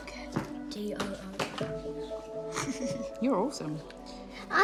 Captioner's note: laughs